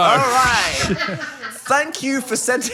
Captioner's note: crew laughs